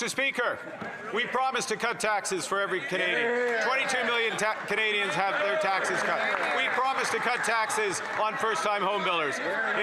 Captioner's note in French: voix de l'interprète